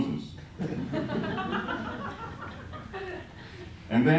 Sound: laughter

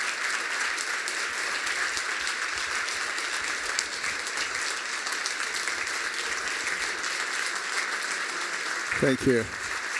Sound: applause

